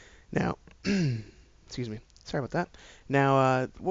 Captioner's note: clears throat